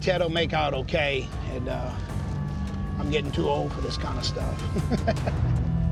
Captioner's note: laughs